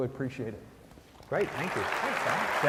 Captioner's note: applause